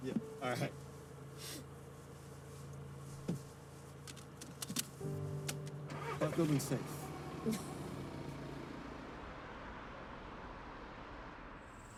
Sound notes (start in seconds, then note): 5.4 car engine starts; 7.5 Cassie laughs